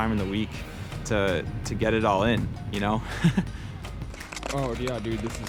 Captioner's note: laughs